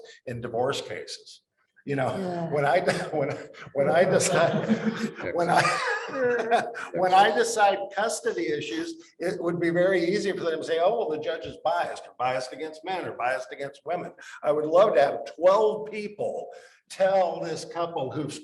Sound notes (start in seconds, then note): 5.5 laughing; 6.5 panel laughing